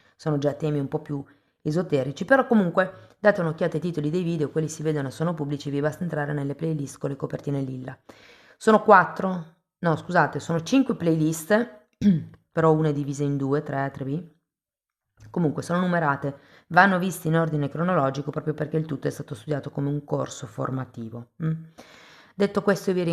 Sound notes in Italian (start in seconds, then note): 12.0 schiarire la voce